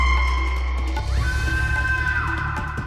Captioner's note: screaming